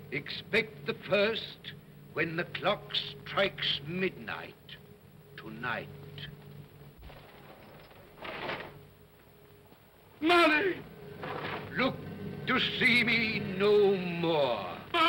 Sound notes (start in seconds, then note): 7.1 chains clatter; 10.7 chains clatter